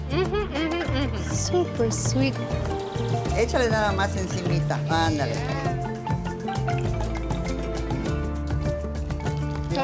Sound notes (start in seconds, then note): 4.0 speaks Spanish